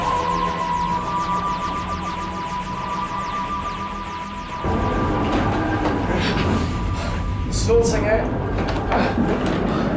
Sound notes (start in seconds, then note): 4.5 tardis engines groaning; 6.6 panting